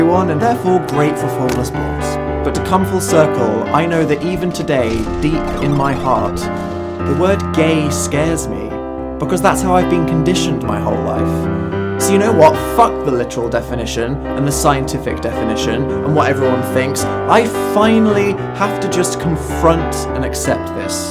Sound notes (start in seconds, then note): 4.3 battle sound effects; 4.8 video game "game over" sound